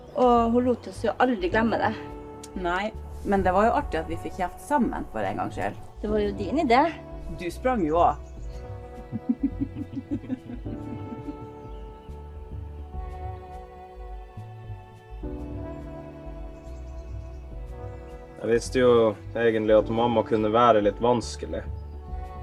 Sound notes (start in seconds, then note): 9.0 laughing